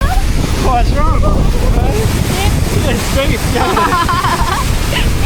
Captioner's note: laughing